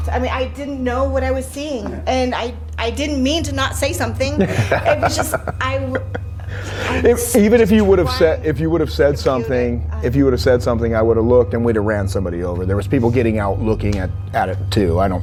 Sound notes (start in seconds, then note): 4.4 laughing